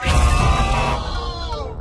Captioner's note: buzzer